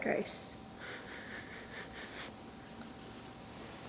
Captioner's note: blowing